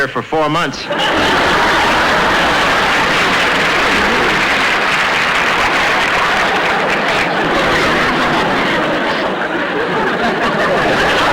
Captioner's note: audience Laughing